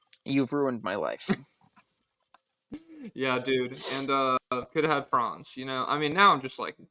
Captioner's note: laughs